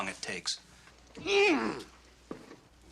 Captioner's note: Grandpa grunting